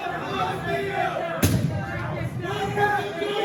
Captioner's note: pounding on door